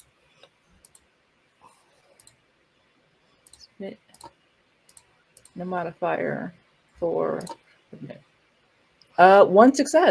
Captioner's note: Roll20 click